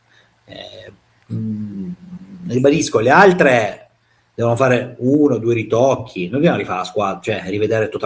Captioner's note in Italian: schiarire la voce